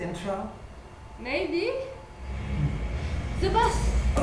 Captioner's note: bus approaching